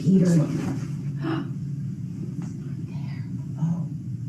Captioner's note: gasps